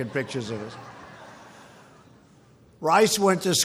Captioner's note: laughter